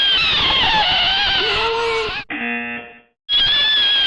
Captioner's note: buzzer